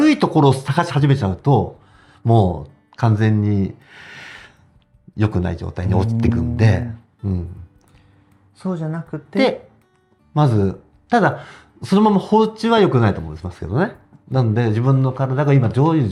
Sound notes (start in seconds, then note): 5.9 laughs